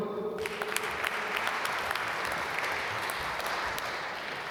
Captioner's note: applause